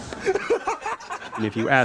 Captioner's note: crowd laughing